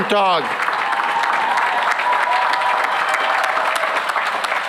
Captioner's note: cheering and applause